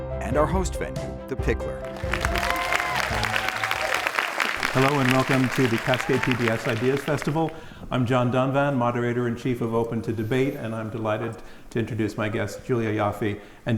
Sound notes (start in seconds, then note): 1.8 audience cheers and applauds